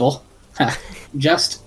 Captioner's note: laugh